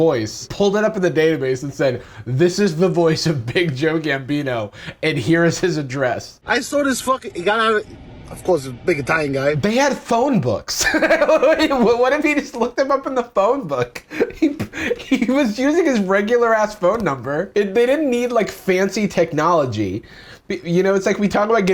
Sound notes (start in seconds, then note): 10.7 laughs